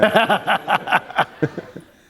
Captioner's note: laughter